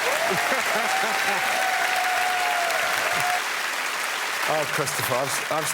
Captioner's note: cheers and applause